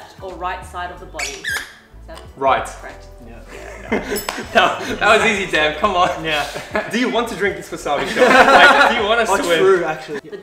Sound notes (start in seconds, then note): 3.4 chuckles; 7.8 laughs